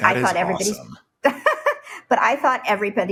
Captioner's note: laughs